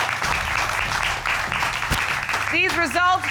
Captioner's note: audience applauds